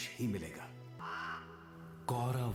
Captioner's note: cawing